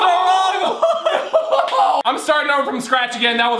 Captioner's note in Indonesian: tertawa